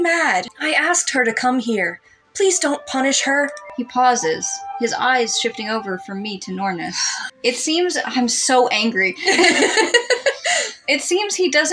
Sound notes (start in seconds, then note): 7.0 sigh; 9.2 both Laugh